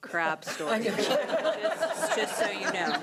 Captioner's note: laughing